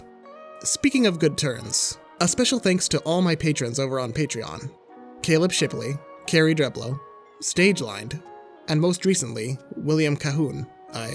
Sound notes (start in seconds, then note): none